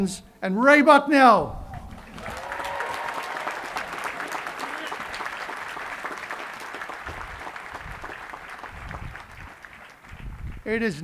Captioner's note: cheering and applause